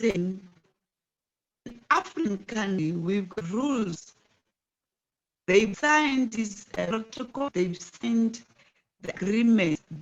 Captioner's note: distorted audio; distorted audio